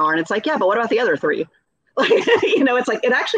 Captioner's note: laughing